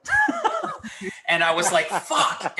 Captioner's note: laughs